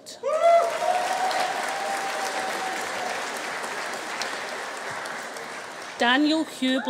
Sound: audience cheering; audience applauding

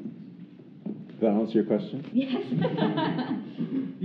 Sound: laughing

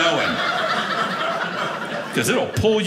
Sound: audience laughing

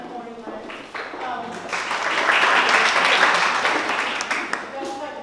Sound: applause

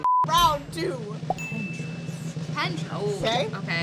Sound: beep; drum roll; bell dings

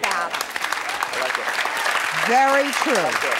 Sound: applause

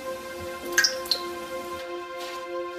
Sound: water dripping

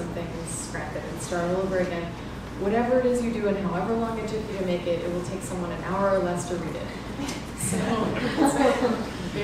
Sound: laughter

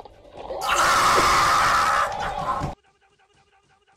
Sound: intense screaming

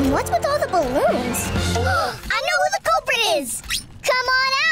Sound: both gasping

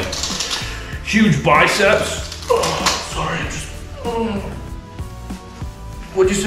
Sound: moans

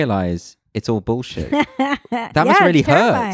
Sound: laughs loudly

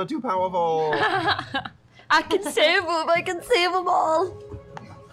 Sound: laughs

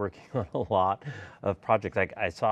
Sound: chuckles

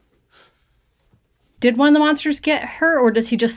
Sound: breaths deep

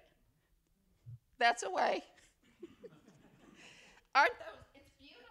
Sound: laughter

